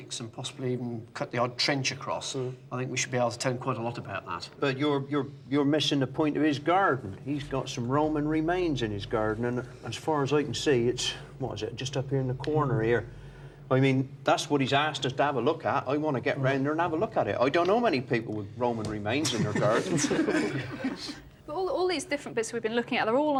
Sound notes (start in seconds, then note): 19.2 all chuckling